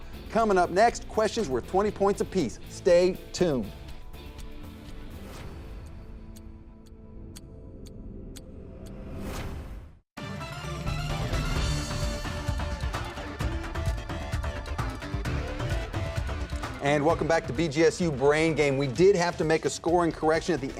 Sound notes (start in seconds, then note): 5.2 clock ticking; 10.5 upbeat gameshow music